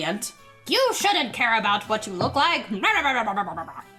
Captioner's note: high voice; jabbering noises